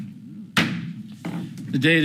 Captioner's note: gavel bangs